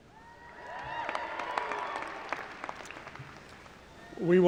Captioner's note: cheering